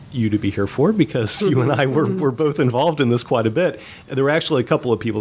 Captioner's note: chuckle